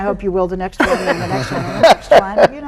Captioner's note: guests laughing